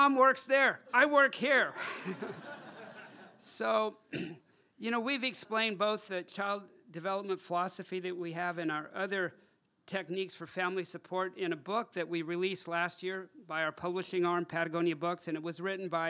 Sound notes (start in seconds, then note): 1.7 laughter